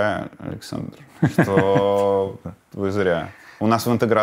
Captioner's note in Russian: Гордон смеется